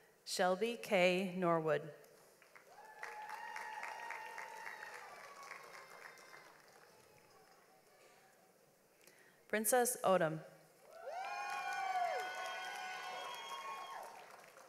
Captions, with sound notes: Shelby Kae Norwood. (audience applauds) Princess Odom. (audience applauds)